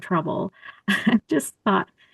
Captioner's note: laughter